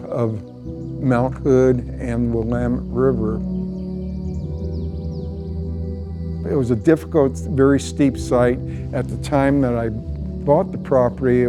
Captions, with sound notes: of Mount Hood and Minam River. [pensive music] [birds tweeting] It was a difficult, very steep site. At the time that I bought the property,